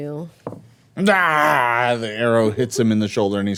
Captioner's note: growling